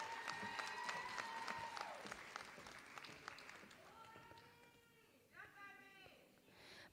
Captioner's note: applause